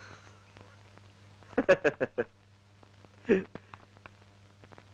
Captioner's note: laughing